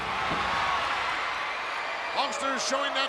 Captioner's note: crowd cheers